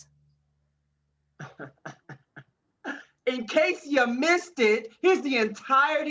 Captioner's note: chuckling happily